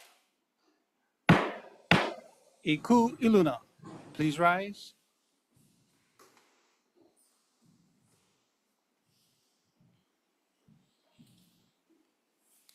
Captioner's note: gavel bangs twice